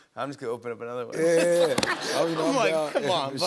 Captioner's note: laughter